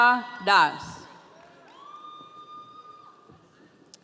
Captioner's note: audience cheering